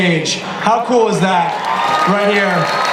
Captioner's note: applause